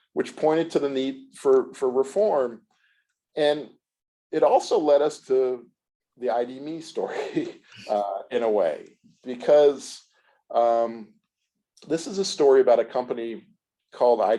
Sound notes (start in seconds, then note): 6.8 laughs